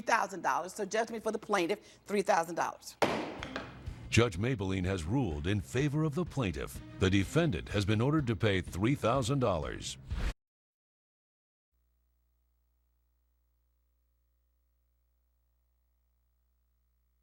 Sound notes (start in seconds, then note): 3.0 banging